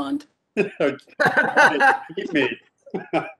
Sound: all laugh

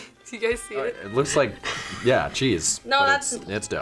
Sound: laughs

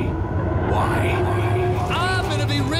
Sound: echoing

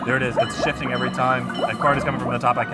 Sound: game burbling

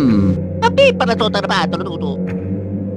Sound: italian gibberish

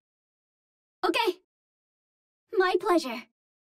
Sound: Vietnamese

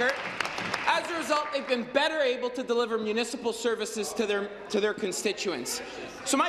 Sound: applause

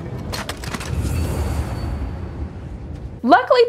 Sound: air whooshing

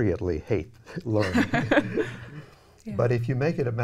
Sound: laughing

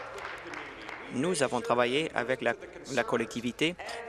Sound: applause

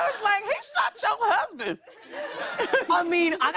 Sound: laughter

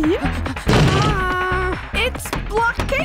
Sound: door slamming; hammers

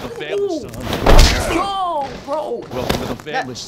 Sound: punch lands

